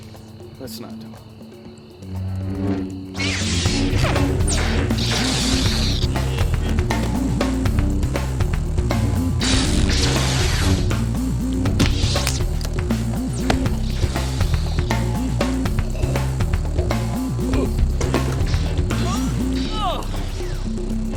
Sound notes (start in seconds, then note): 18.4 groans